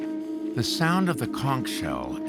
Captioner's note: none